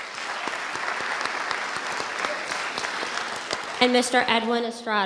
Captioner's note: audience applauding